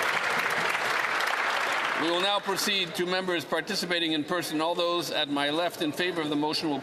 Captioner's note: some Applause